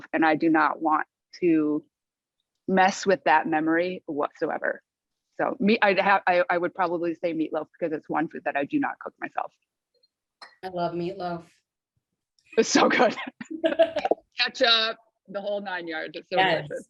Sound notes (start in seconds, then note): 12.6 laughter